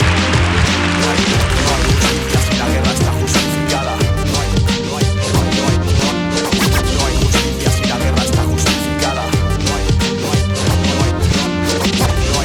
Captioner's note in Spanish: Scratch